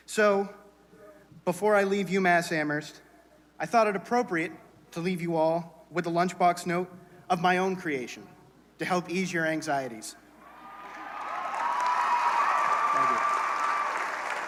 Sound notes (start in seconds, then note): 10.5 cheering, applause